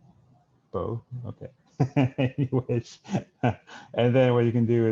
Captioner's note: laughs